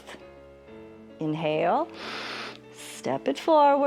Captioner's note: inhales; exhales